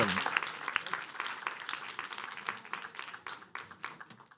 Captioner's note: applause